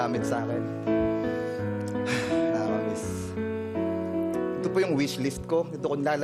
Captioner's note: mellow music playing; exhales